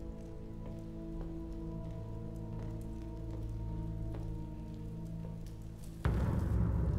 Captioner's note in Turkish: Alev sesi